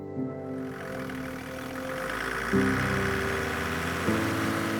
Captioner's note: car engine roaring